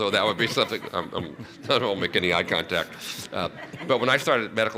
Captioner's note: laughter